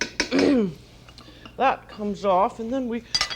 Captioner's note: clears throat